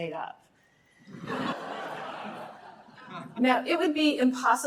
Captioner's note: laughter